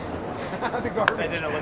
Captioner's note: laughing